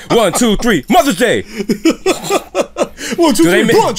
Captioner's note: laughter